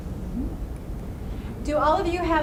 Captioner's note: voiceover